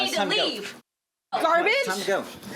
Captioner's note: muted